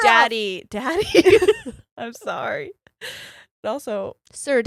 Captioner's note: both giggles